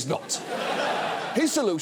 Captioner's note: audience laughs